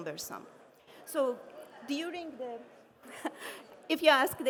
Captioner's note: chuckles